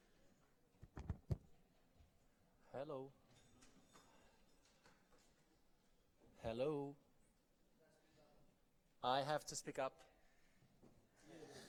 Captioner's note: laughter